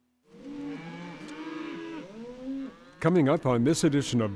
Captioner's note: cows mooing